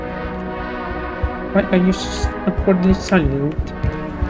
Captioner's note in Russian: задорным голосом